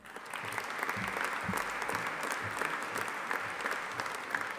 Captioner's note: audience applauding